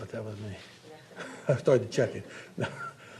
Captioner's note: laughs